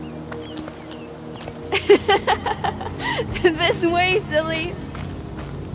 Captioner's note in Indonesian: tertawa